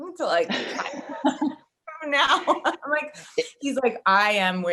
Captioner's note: all laughing